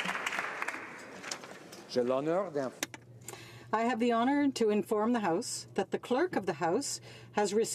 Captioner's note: some Applause